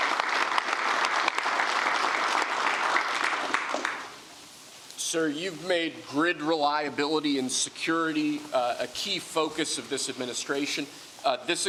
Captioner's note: applause